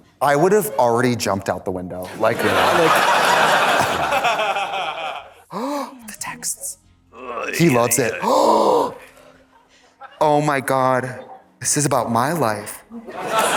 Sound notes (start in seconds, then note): 2.0 audience laughs; 7.2 gasps; 13.1 audience laughs